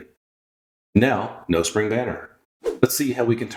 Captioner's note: woosh